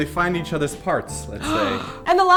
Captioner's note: gasp